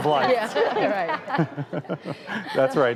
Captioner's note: laughing